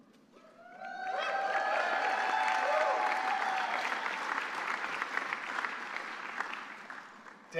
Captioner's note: applause